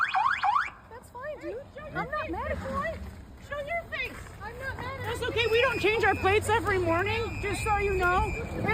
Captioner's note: siren